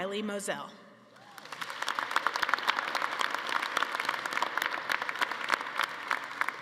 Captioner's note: attendees cheering and applauding